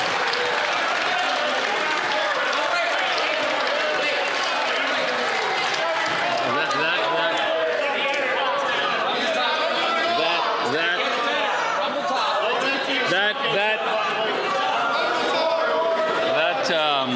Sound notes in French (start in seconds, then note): 1.6 voix de l'interprète; 5.4 applaudissements